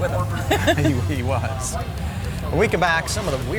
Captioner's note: both chuckling